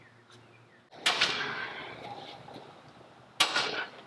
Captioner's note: hammer thuds